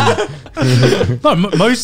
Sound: group laughs

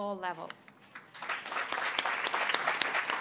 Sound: applause

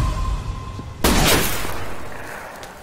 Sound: gunshot

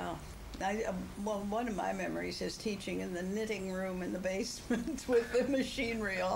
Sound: laughs

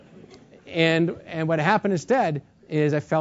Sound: laugh

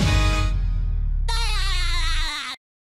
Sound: laughs

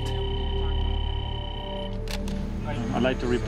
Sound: phone ringing

